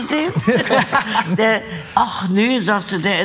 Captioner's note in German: Lachen